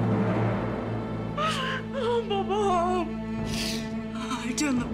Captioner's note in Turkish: İlbilge ağlama sesi